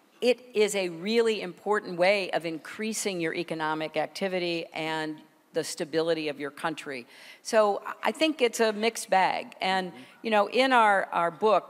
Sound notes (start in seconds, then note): none